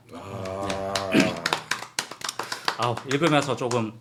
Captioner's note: applause